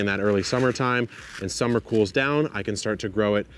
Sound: seeds rattle

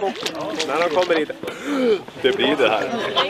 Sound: breathes in

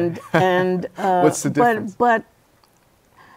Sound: laughs

